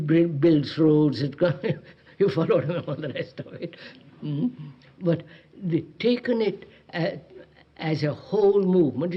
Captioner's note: laughs